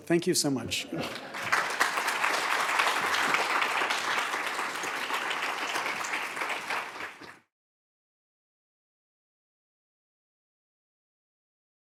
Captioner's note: applause